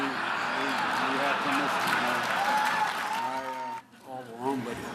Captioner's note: laughter